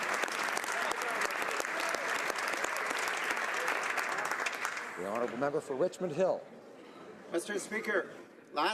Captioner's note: applause